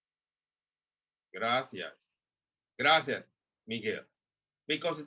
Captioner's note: spanish